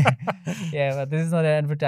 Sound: laughing

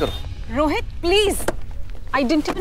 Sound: car door opens

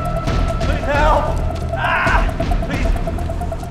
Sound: screams

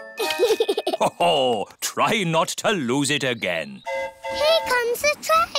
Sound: giggles; train horn hooting

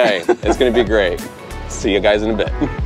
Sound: laughs

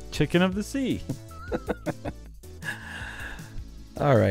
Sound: laughs

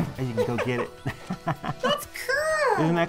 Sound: laughing

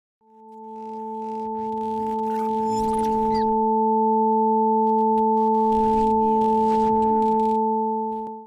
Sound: shortcut electrical static

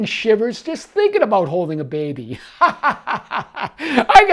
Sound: laughs

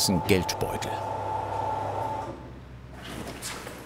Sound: buzzing stops

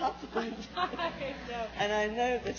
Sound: laughs

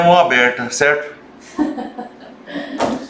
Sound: laughter

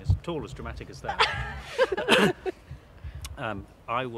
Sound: all laugh

